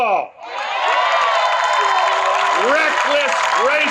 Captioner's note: cheers and applause